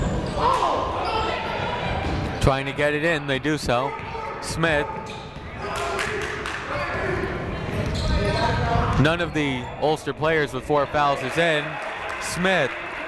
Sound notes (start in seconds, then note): 0.1 shouting; 5.7 clapping